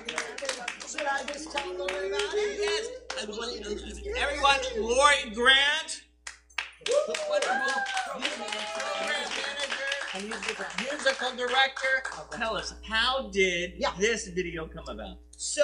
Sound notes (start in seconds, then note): 6.3 applause